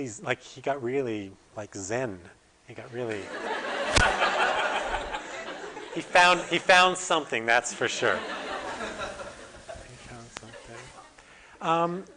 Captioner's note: audience: Laughter